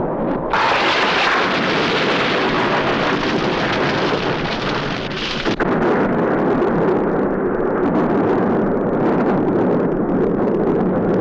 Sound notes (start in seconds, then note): 3.3 fire crackling